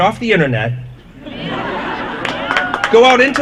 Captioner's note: applause